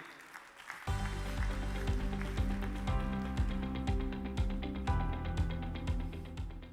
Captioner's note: audience clapping; upbeat music